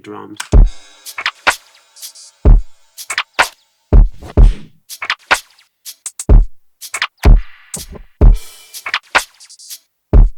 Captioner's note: beat boxing